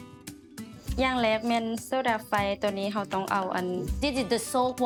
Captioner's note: foreign language